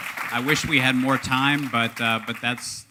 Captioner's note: applause